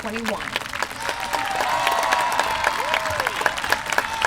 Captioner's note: applause